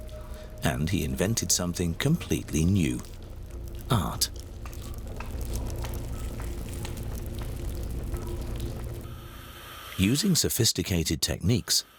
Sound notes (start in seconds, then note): 5.0 sound of tools working